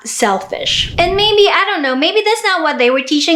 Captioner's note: whoosh